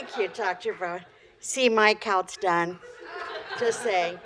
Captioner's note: laughter